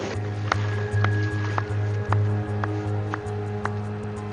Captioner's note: slow clapping